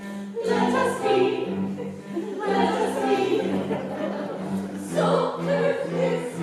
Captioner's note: laughter